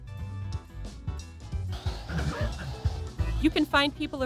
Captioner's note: dog barks